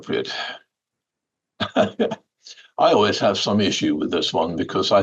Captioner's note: laughter